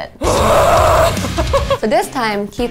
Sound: grunting loudly; giggling

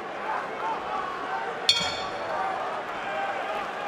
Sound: bell dings

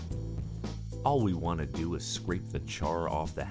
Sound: voiceover

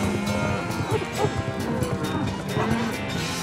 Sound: dog barks

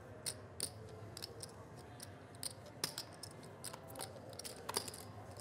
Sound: chips clanking together

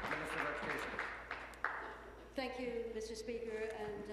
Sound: applause

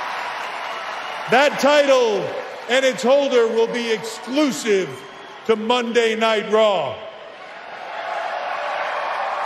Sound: cheering

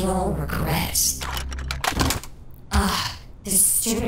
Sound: camera thudding

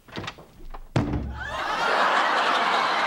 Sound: thump

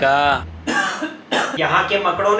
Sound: coughs

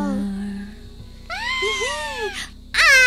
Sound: giggles

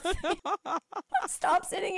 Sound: both laughing

